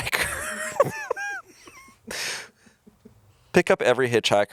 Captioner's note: chuckling